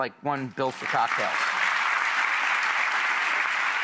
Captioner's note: clapping